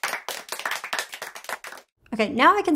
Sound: hands clapping

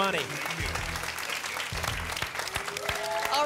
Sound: applause and cheering

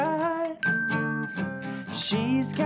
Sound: timer dinging

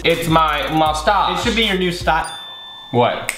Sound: ding

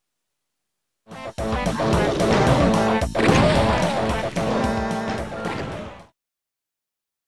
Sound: DOOM video game sound

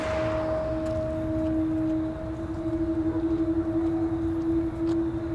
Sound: cars passing; crickets chirping, dog barks

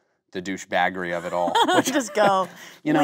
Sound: Kate laughing

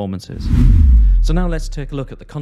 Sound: whooshing

